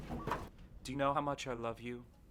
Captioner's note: phone ringing